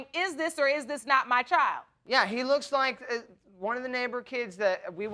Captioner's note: stammering